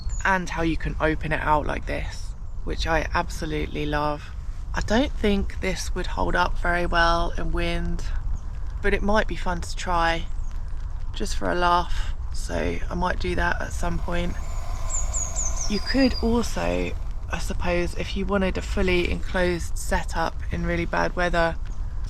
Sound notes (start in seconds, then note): 13.6 water boiling